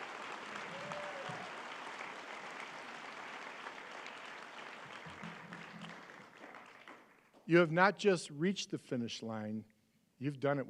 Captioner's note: applause